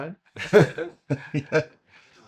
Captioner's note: laughing